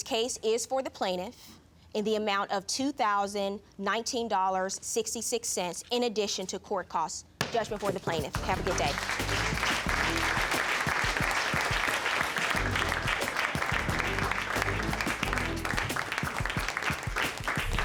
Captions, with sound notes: My judgment in this case is for the plaintiff, in the amount of $2,019.66, in addition to court costs. Judgment for the plaintiff. Have a good day.(GAVEL BANGING) (AUDIENCE CLAPPING)